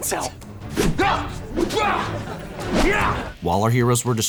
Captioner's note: grunting